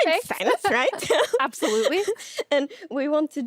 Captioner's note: giggles